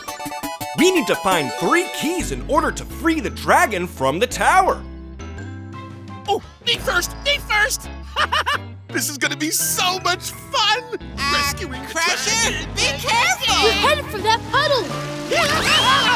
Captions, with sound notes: We need to find three keys in order to free the dragon from the tower. Ooh, me first, me first. [laughing] This is gonna be so much fun! Uh, Crusher... be careful! You're headed for that puddle!